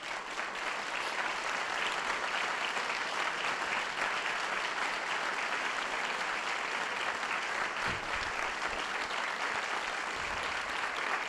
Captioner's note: applause